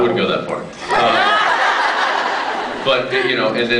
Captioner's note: laughs